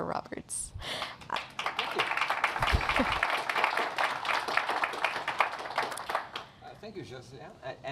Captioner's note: Applaudissements